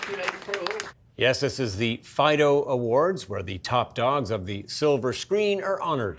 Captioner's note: applause